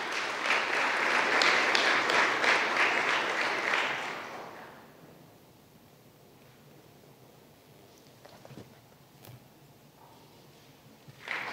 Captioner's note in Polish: oklaski